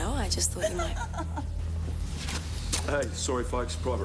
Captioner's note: woman giggling